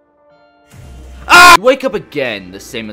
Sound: screams

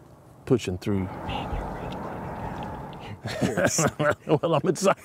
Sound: whispering

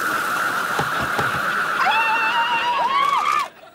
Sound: cheering

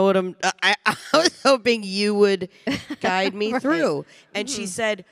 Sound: chuckles

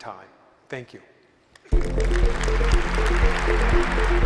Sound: applause

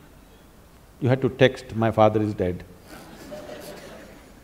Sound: laughter

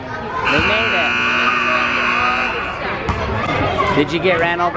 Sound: buzzer sounds

